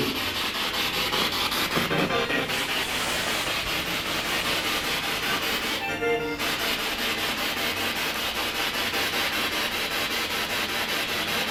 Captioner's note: radio noise from the spirit box